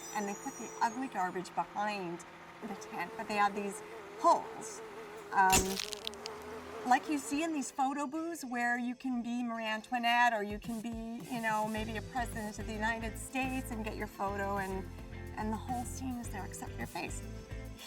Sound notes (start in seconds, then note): 5.5 camera flashes; 5.5 insects buzzes